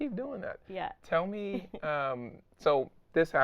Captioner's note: laughing